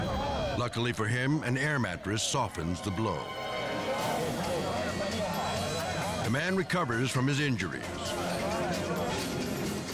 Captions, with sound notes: Luckily for him, an air mattress softens the blow. (people speaking in foreign language) The man recovers from his injuries,